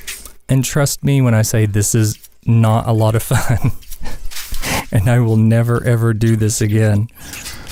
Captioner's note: haha